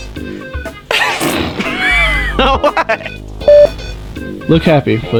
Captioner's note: hahaha